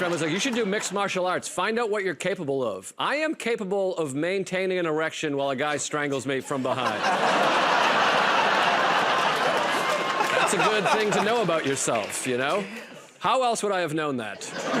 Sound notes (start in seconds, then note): 6.6 laughter and applause